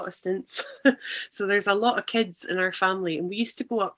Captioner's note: laughs